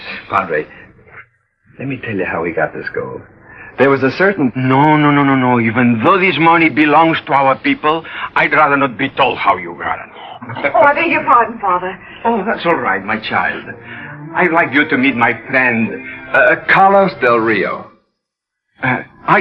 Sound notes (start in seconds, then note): 10.1 laughs